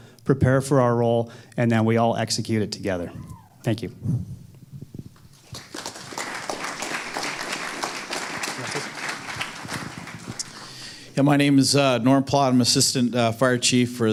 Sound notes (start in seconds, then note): 5.3 applause